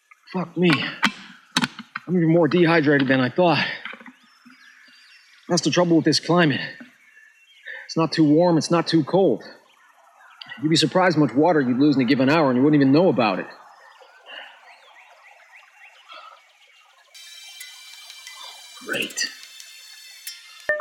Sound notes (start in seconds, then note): 13.9 cellphone ringing